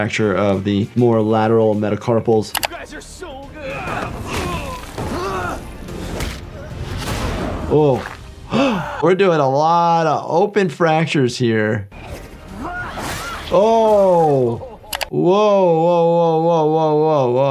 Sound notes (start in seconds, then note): 2.5 screen clicking; 4.0 body thudding; 5.3 character grunting; 6.9 body thudding; 8.4 Jordan gasping; 11.9 characters shouting; 13.7 flesh spattering